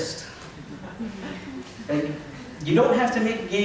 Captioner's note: laughter